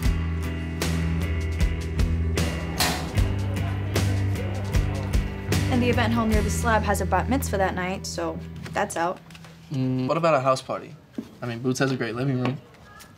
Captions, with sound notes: (door closing) - And the event hall near the Slab has a Bat Mitzvah that night, so, that's out. - Hmm, what about a house party? I mean, Boots has a great living room.